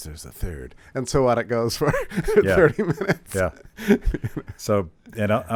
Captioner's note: laughs